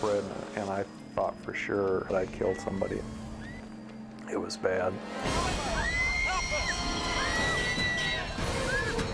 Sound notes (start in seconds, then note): 5.2 people screaming; 8.2 edgy dramatic music; 8.2 people screaming